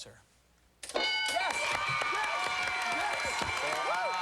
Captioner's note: cheers and applause